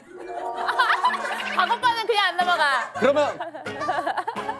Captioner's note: laughs